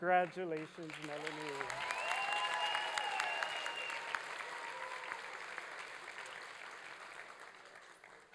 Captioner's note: applause and cheering